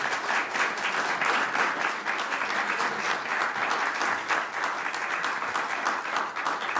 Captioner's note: applause